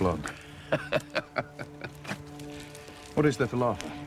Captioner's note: laughter